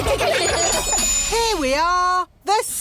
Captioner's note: laughter